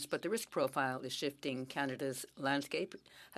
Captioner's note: speaking French